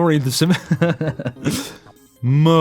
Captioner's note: chuckles